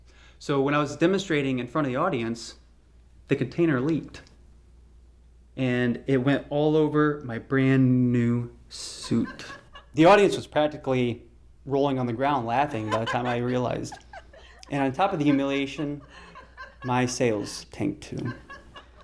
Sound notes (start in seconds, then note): 12.6 laughter